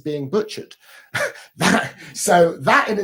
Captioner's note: chuckles